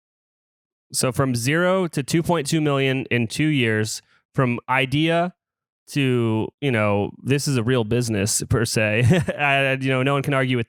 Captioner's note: laughs